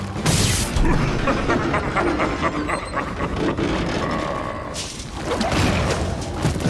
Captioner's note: Steenium cackles; electricity buzzes; intense music continues